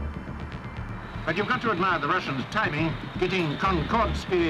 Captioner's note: radio voice